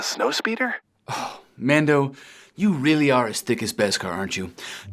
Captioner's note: sighs